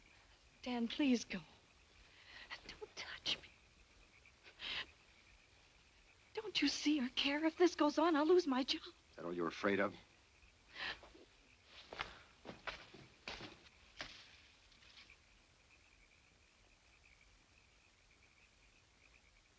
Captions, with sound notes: - Dan, please go. Don't touch me. Don't you see or care? If this goes on, I'll lose my job. - That all you're afraid of? (leaves rustling) (frogs croaking)